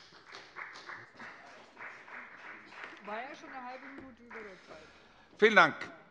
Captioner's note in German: Beifall bei der FDP